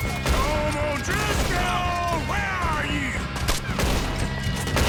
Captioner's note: taunting